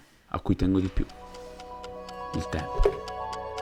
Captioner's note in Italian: Rumore delle lancette